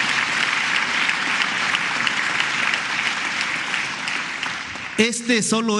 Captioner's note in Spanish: aplausos